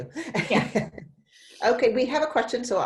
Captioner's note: laughs